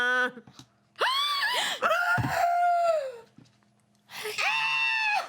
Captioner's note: woman sobs; women gasping